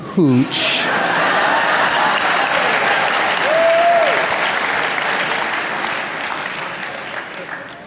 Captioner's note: laughter/Applause